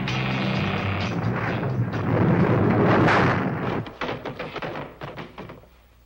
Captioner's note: blocks crashing aggressively